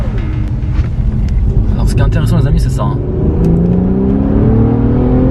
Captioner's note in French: le bruit du moteur V6 de 364 ch